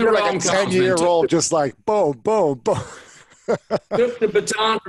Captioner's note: laughs